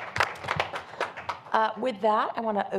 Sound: applause

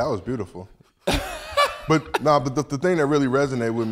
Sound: group laughs

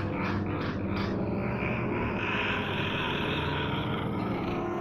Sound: laughs evilly

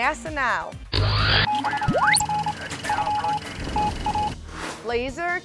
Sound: sound Effects

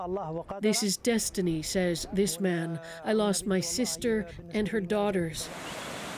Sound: speaking alternate language

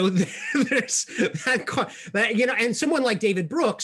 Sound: laughing

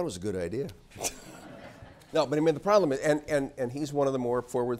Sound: laugh

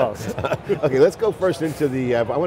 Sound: laughing

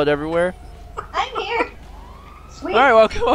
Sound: laughs

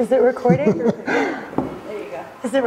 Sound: chuckling

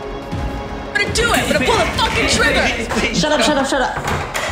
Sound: door closes; door creaks

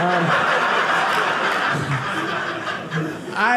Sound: audience laughing

